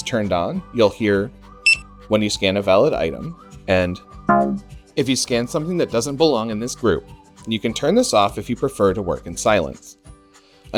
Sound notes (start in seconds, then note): 4.3 bonk